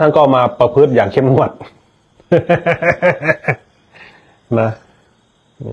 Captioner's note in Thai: เสียงหัวเราะ